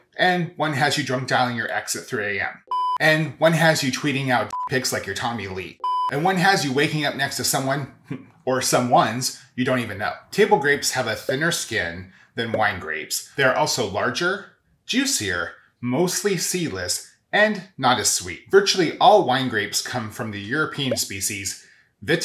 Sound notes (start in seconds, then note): 2.6 beep; 2.7 beeping; 5.8 beeping